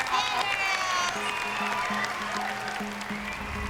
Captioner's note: cheering and applause